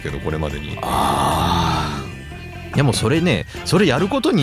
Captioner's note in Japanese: うめき声